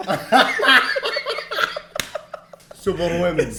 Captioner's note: laughing